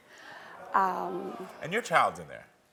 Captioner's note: audience groans